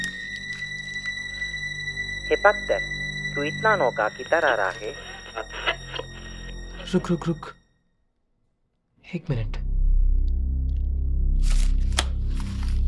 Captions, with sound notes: (Hearing the radio sound ) Wait, wait , wait, One minute